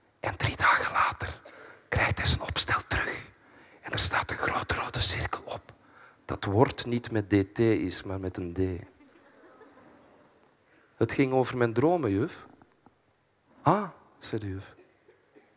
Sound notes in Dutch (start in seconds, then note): 3.7 fluistert; 9.1 publiek lacht